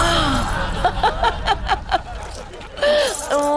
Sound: laughs

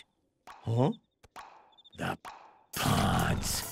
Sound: popping sound

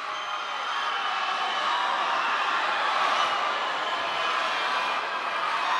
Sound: cheers and applause

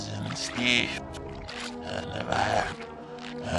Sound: mumbling

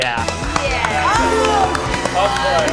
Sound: group applauds, assorted indistinct congratulations

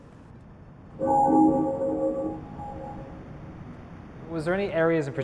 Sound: bell ringing

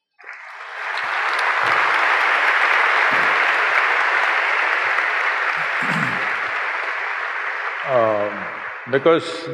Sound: applause

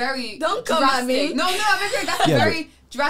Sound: laughing

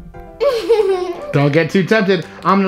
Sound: laughs

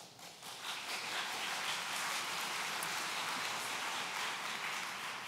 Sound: audience applauds

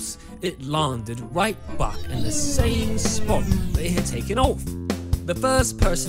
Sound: spaceship landing noises

